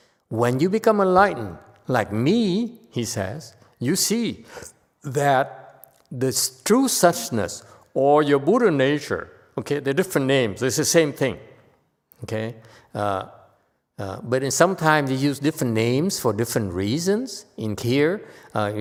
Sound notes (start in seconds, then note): none